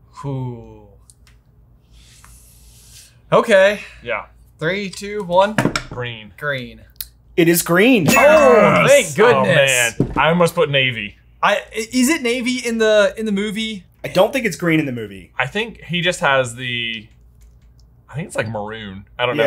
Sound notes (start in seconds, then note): 8.1 bell dings